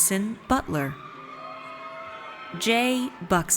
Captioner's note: audience cheers